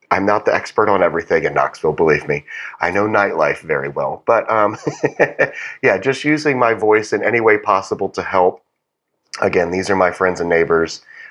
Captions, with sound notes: I’m not the expert on everything in Knoxville, believe me. I know nightlife very well, but [laugh] yeah, just using my voice in any way possible to help. Again, these are my friends and neighbors.